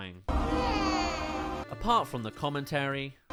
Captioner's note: crying